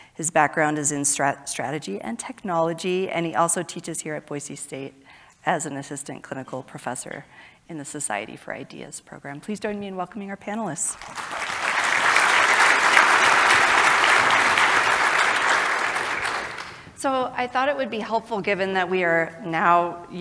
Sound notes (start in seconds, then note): 10.9 audience applauding